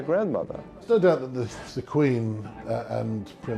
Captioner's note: voiceover